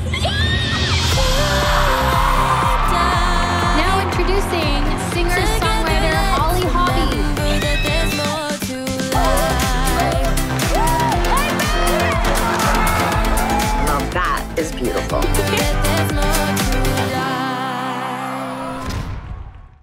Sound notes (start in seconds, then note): 0.1 cheering; 1.4 singing; 7.7 singing; 10.5 cheering; 15.2 singing; 17.6 cheering